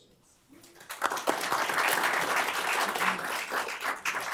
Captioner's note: applause